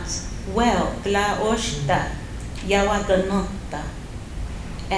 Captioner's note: non-english speech